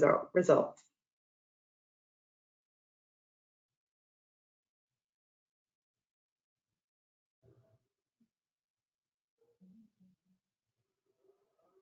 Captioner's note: silence